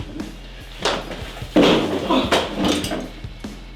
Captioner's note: flies